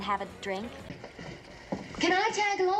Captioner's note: footsteps